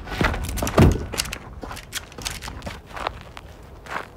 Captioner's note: guns clicking